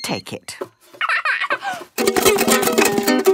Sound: giggles; vigorous, unpleasant strumming

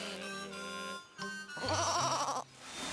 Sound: bleating

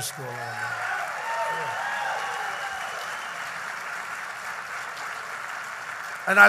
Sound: applause

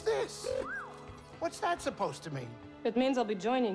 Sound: whistle

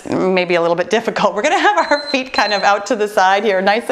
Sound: timer beeping

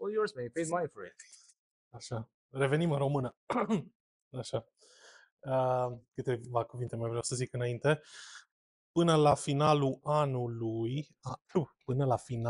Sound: speaking in Romanian

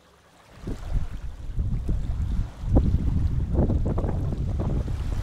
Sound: water gently lapping

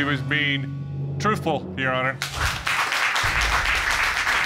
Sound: audience applauds

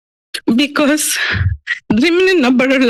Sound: sniffles

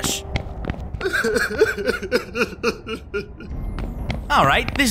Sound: sobbing

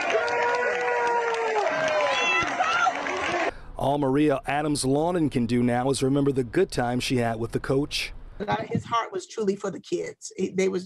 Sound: cheers and applause

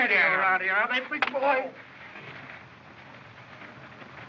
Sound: groans

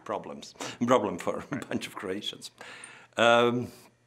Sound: chuckling

